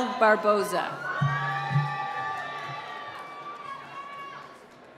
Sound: cheering

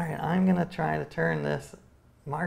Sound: none

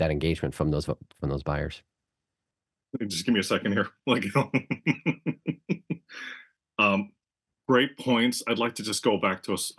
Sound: laugh

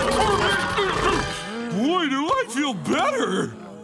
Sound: groaning

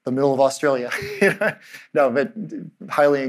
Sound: chuckling

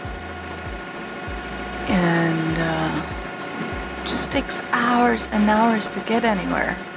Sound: none

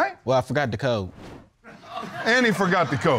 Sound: audience laughs

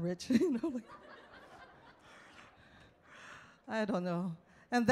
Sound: audience laughs

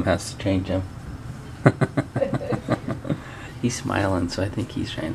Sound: laughs

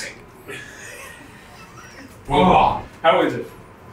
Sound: laughing

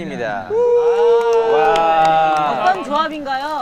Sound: cheering

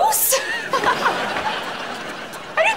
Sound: laughing

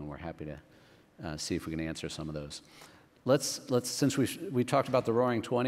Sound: none

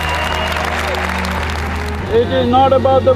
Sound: cheering/Applause

